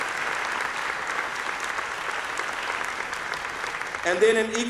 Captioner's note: applause